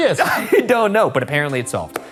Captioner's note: laughing